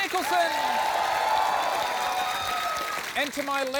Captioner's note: cheering and applause